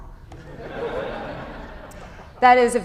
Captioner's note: laughter